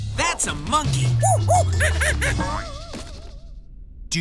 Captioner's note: monkey noises